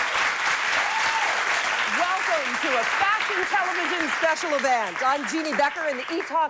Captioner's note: cheers and applause